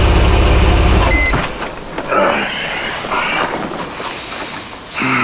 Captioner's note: engine idling